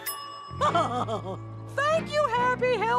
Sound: laughing

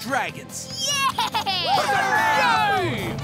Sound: cheering

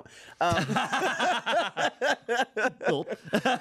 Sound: everyone laughs

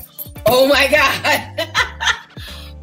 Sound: laughing

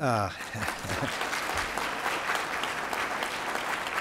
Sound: applause

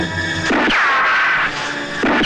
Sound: gunShot

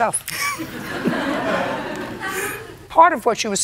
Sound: laughter

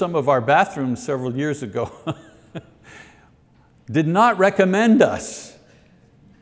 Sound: laughs

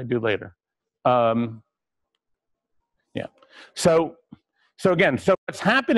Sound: pause

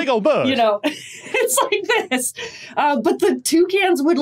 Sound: laughs

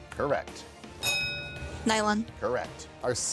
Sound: bell dings

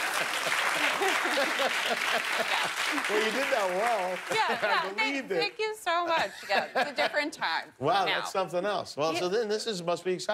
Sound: applause; laughter

